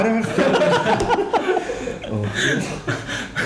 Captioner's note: laughing